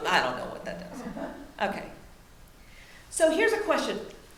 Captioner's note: audience laughs